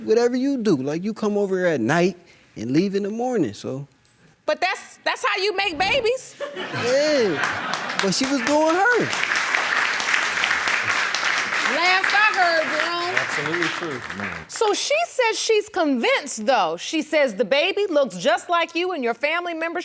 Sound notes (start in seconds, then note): 7.4 audience laughing and applauding; 9.0 applause continues